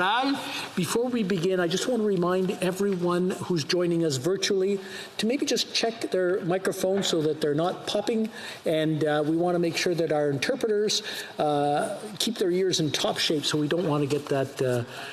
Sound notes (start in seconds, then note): 2.7 speaking alternate language